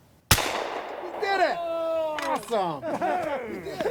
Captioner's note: laughter